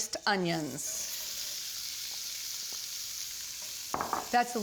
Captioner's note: sizzling